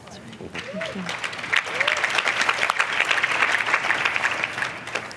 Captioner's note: applause